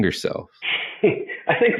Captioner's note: chuckles